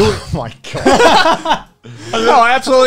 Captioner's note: laughs